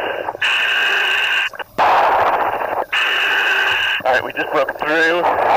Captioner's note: breathing heavily